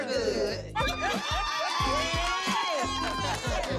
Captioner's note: cheering